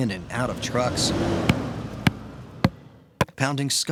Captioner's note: truck driving away and pounding in stake